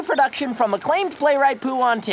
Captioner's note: none